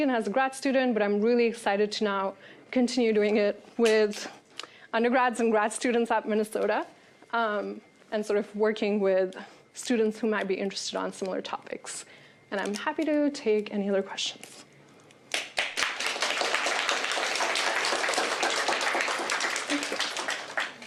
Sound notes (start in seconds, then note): 15.3 applause